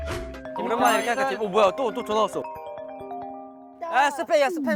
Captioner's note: Newest phone rings again